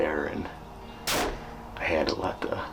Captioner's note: gun fires